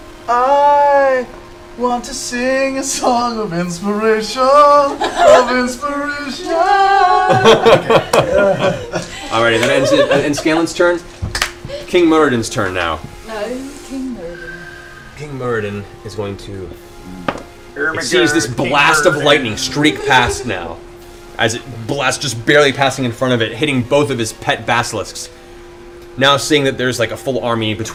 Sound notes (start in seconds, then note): 0.8 sings; 7.2 laughter